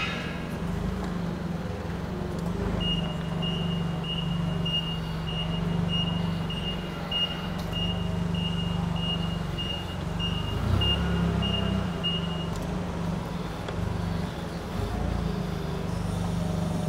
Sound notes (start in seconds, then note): 0.2 motor humming; 3.3 beeping; 12.9 motor humming